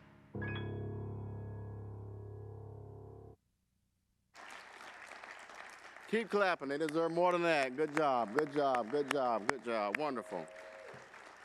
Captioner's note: applause